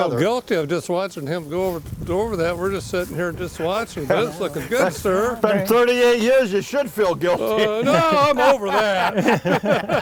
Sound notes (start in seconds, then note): 7.1 laughs